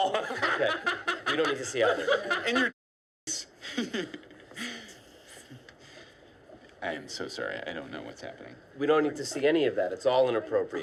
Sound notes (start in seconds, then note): 0.0 laughter